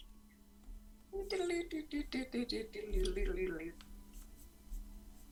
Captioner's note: hums theme music